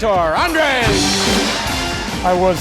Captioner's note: dramatic music; audience applauding and cheering